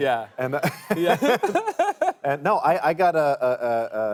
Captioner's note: laughs